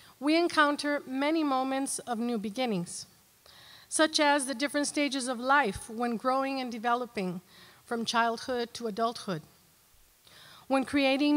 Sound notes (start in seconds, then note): none